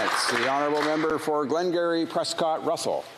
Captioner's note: applause